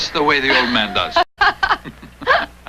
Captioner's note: laughing